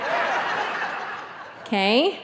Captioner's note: audience laughing